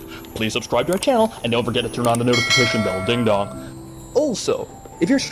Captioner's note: ding dong